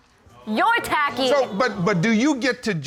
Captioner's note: audience exclaiming